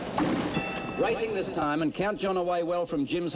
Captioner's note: bell dings